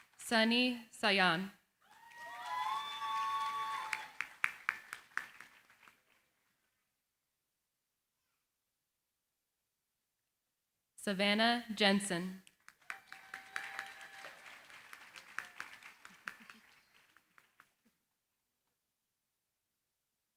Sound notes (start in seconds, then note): 1.8 cheering, applause; 12.7 cheering, applause